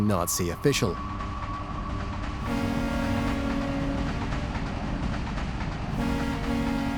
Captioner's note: steam train; dramatic music